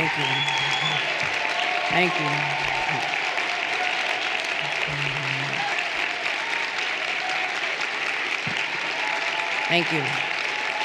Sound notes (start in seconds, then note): 3.5 everyone applauding